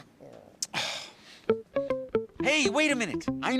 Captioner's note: sighs